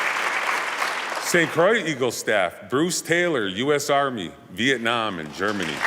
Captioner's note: applause